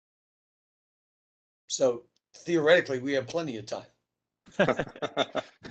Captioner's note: laughter